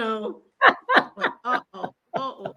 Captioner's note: laughs